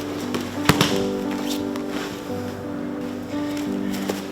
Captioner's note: thudding